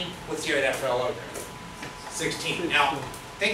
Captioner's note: speaks softly